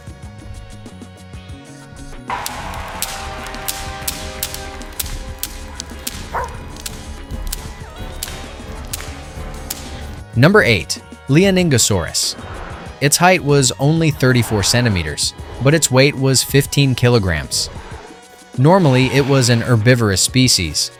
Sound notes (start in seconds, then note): 0.2 instrumental music; 7.9 punches landing